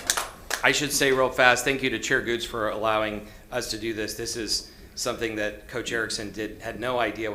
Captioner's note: applause